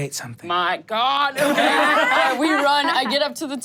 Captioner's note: everyone laughs